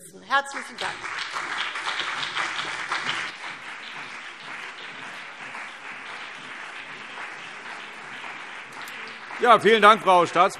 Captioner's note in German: Beifall CDU und BÜNDNIS 90/DIE GRÜNEN